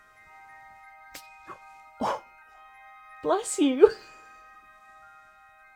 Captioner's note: mouse sneezes